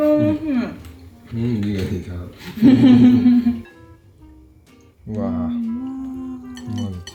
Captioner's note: laughs